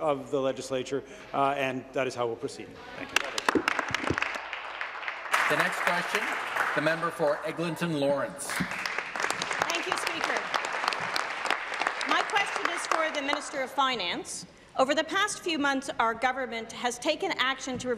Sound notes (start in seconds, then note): 6.1 applause